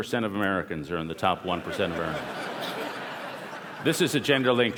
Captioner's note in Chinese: 笑聲